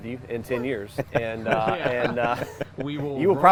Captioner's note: everyone laughs